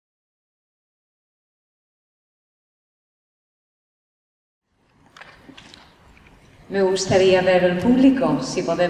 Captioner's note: none